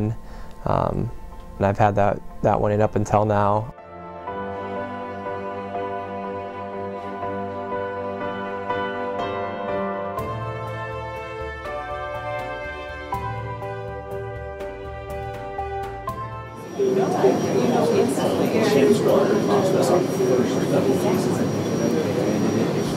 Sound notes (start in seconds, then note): 7.2 sounds of procedure room